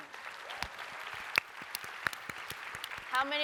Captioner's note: applause